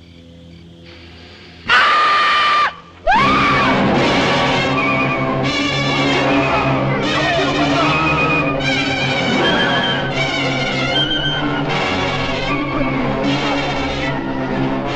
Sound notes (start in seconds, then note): 0.9 sniffing; 1.6 screaming; 7.7 clamoring